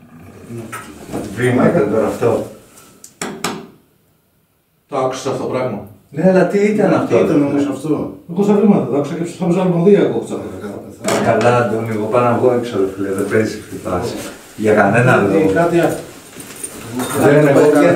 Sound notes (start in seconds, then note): 0.0 evp sound; 2.3 strong knocking